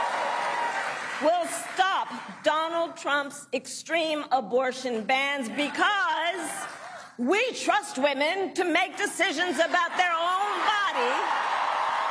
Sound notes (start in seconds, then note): 0.0 cheering and applause; 3.3 applause